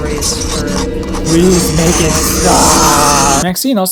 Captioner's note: nails on a chalkboard; nails on a chalkboard